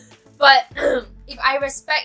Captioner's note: clear throat once again